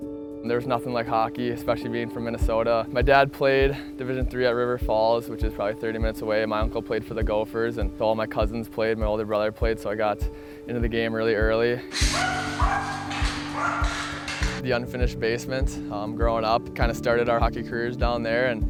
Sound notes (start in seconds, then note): 11.9 sticks scraping on the floor; 11.9 dog barking